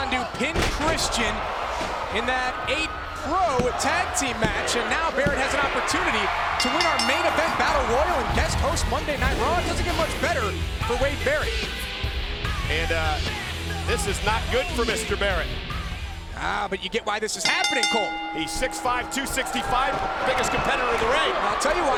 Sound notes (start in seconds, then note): 17.4 bell ringing